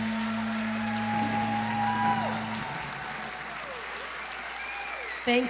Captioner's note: applause